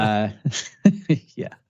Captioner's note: laughing